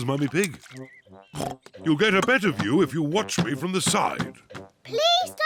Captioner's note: oinks